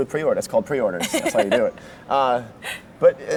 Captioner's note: laughs